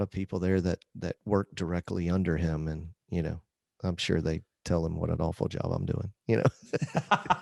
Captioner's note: laughter